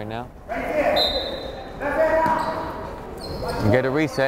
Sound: whistle blows

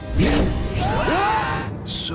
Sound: screaming

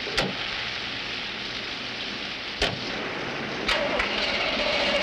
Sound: engine not starting

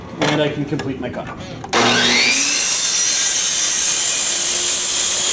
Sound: saw buzzing

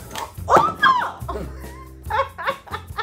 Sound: laughter; squeals; laughter

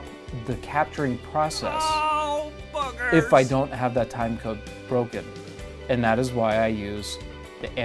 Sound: male voice: oh buggers

